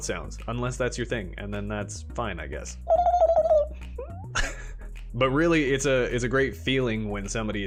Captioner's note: mouth Sounds